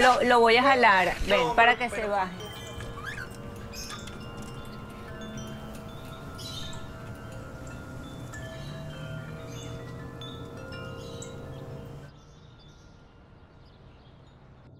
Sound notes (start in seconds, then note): 2.8 birds chirping; 2.8 chiming